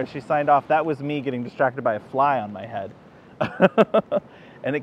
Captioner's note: laughs